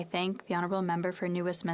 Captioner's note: speaking French